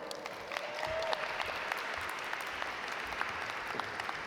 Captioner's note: audience applaud